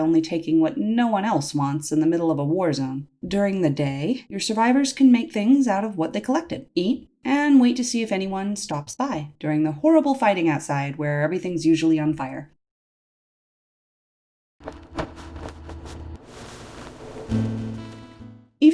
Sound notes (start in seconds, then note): 12.4 silence; 14.6 footsteps; 14.6 shuffling into place